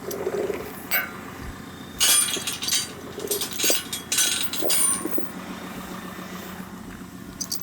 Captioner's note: engine idling continues; chain clanking